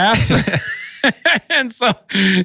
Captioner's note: both laugh